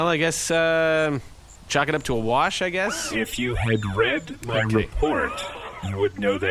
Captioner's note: irritated